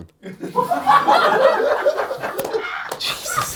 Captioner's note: audience laughs